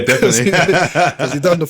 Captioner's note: laughing